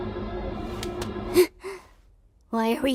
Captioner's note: gasps